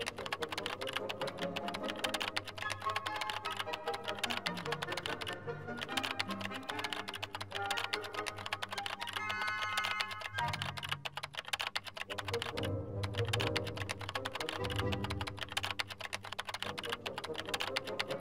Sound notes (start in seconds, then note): 10.7 tapping continues